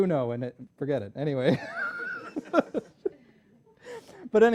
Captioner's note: laughter